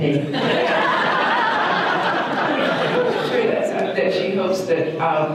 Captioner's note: audience laughter